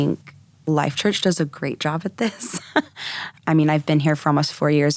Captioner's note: chuckling